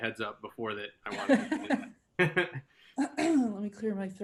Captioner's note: laughs